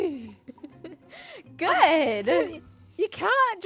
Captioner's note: laughs